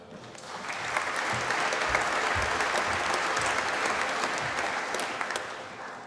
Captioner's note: applause